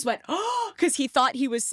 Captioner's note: gasps